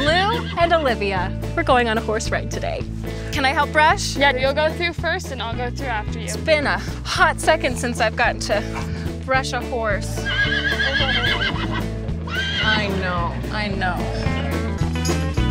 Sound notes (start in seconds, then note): 10.5 horse whinnies